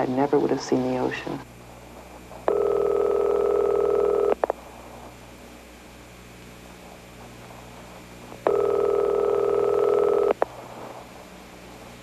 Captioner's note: phone ringing